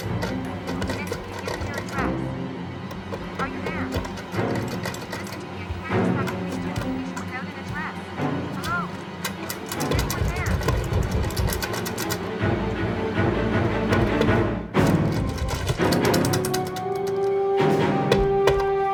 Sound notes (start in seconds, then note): 2.8 door jiggling loudly; 15.4 banging